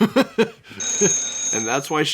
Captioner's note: phone rings